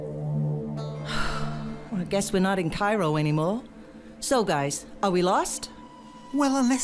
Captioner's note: sighs